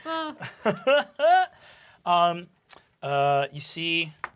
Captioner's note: laughs